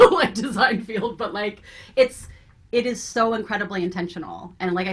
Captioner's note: laughs